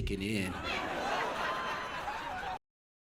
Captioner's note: audience Laughing